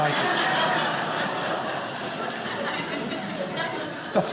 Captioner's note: audience laughing